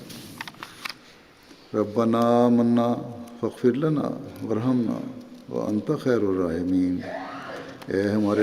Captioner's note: Arabic